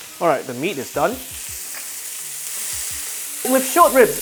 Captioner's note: sizzling sound